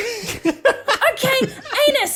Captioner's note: laughs